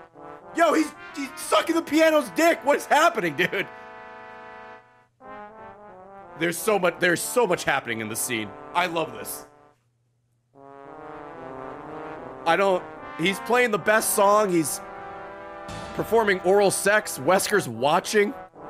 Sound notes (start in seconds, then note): none